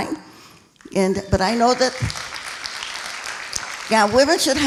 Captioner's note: applauding